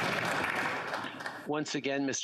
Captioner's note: applause